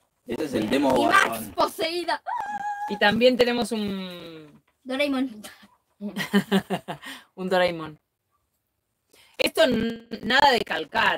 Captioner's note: laughs